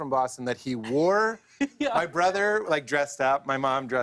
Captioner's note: laughs